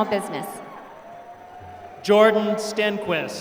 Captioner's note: applause